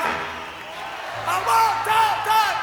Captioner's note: applause